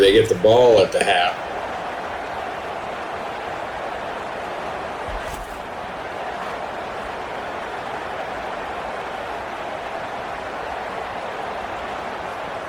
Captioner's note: crowd Noises